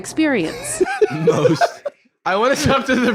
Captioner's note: laughs